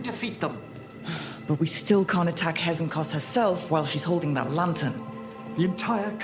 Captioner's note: sigh